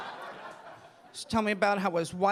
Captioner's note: audience laughing